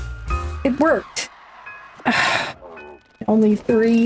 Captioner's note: sighs